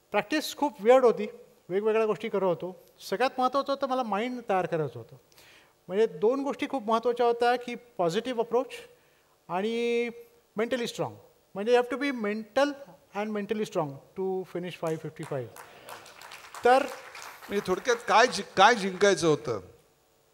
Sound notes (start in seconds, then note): 14.8 applause